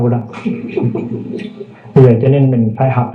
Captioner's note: audience laughing